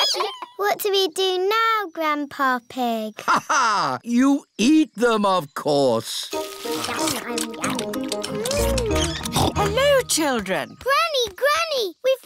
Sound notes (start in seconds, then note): 3.2 laughs; 9.2 snorts